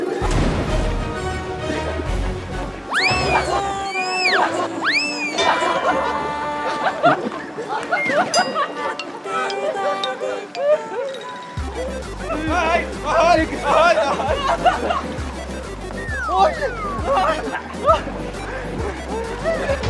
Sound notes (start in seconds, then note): 15.7 sliding